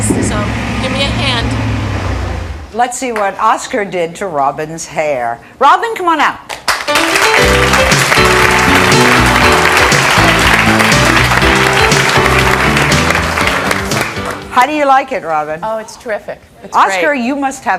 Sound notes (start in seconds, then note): 6.5 audience clapping; 6.8 jazzy music